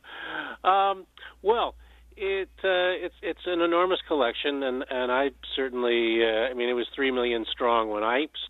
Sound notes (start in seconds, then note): 1.6 laughs